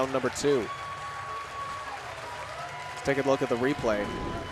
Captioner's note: audience cheering